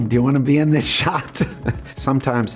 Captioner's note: laughs